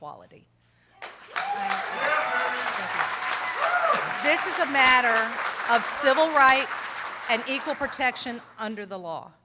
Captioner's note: applause